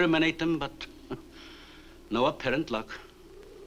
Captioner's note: chuckles